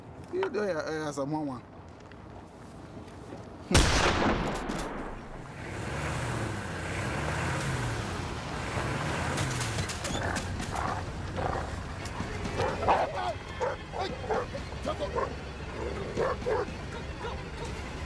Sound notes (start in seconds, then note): 3.7 gunshot; 9.6 tense music plays; 16.1 dog barking